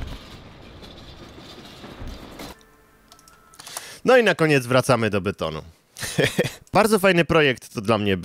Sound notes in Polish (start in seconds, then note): 6.0 śmiech